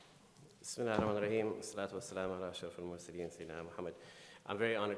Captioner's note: speaking in foreign language